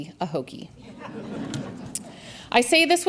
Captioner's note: audience laughs